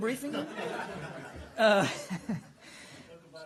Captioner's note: laughter